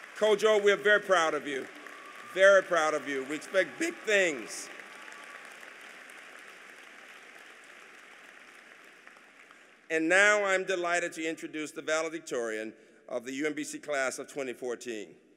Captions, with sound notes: KOJO, WE'RE VERY PROUD OF YOU. VERY PROUD OF YOU. WE EXPECT BIG THINGS. [APPLAUSE] AND NOW, I'M DELIGHTED TO INTRODUCE THE VALEDICTORIAN OF THE UMBC CLASS OF 2014.